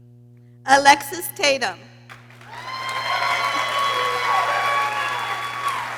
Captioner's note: people cheering